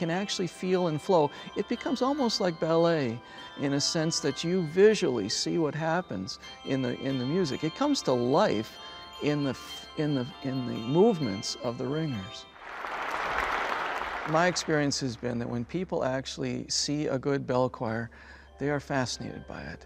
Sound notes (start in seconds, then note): 12.5 nats: applause